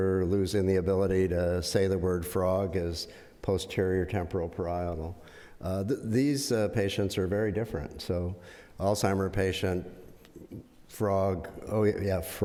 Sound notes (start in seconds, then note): none